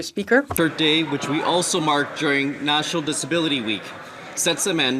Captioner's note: speaking French